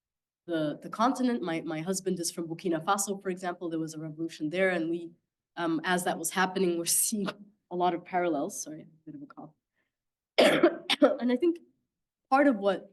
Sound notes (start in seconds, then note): 10.3 coughing